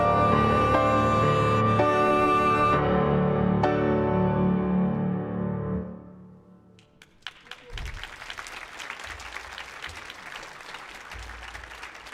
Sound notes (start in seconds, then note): 6.8 audience applauds